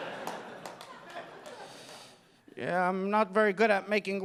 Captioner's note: audience laughing